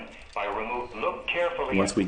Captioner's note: voiceover